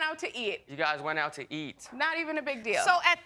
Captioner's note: sarcastically